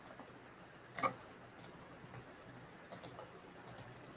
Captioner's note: mouse clicking